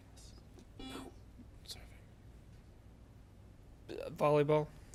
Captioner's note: buzzer beeps